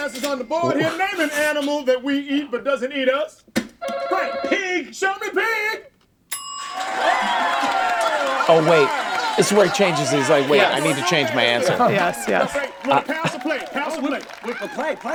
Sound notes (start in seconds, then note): 3.8 phone rings softly; 6.3 bell dings softly; 6.6 audience clapping loudly